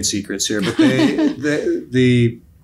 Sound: lady laughing

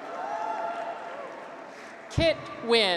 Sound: graduates cheer

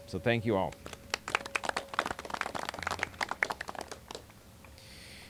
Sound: applauding

